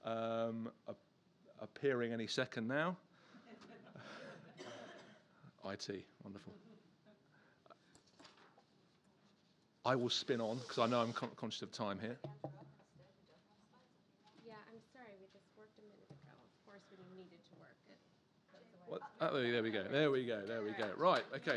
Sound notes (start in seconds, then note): 5.3 laughter; 14.6 female speaking off microphone